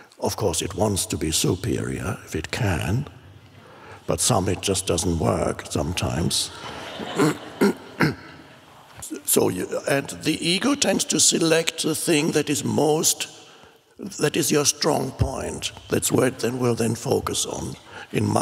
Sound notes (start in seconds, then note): 6.1 crowd laughs